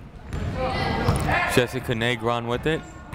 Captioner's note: people shouting in the crowd